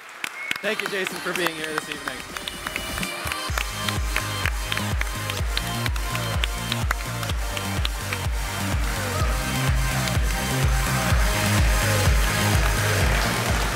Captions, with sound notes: Thank you Jason, for being here this evening. [upbeat dance music] [all applaud]